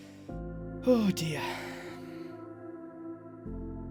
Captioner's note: sighs